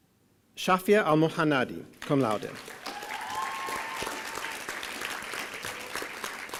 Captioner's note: applause